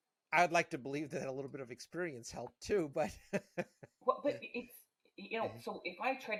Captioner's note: laughing